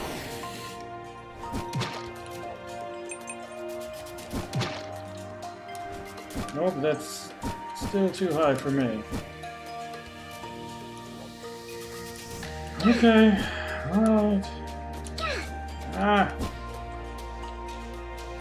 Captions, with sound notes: Nope, that's still too high for me. Okay! [sighs] All right! Aagh!